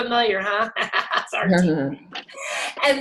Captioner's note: laughs